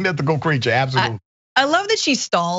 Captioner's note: laugh